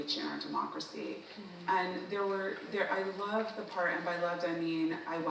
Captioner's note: none